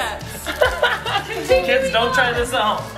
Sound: laughs

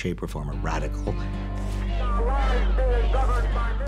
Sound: protestors chanting

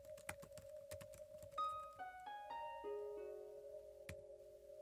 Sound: typing

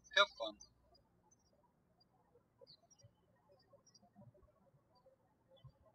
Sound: birds chirping

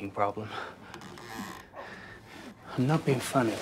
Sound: creak

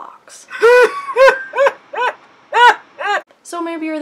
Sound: wheezing laughter

